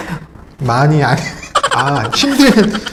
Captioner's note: laughing